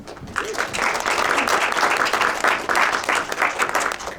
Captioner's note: audience applauding